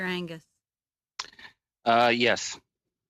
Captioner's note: speaking French